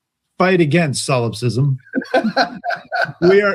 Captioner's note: laughing